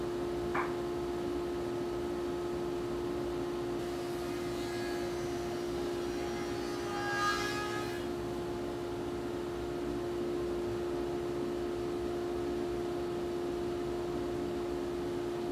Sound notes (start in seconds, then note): 4.2 saw zings